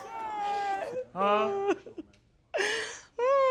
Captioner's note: sobbing